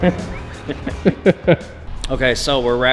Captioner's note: laughing